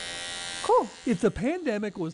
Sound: nat, cutting hair

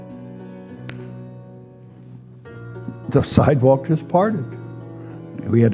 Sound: snaps fingers

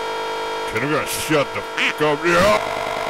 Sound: quack

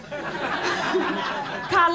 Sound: laughter

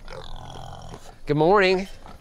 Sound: pig snorting

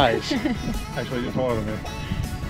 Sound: laughing

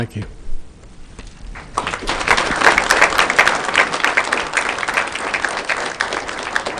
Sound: applause

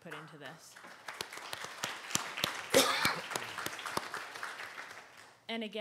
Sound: audience applauding

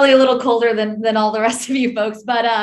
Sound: chuckles

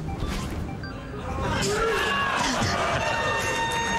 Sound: crowd cheering

